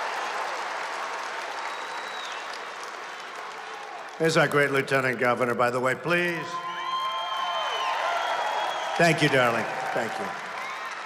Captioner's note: applause